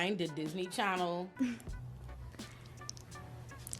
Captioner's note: chuckles